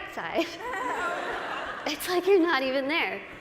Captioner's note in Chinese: 大笑